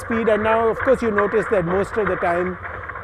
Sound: feet clatter

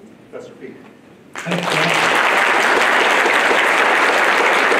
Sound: applause

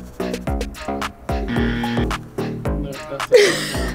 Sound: buzzer; laughs

